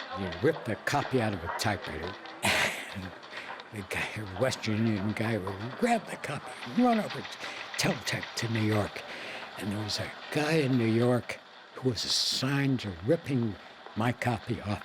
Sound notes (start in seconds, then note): 2.3 chuckling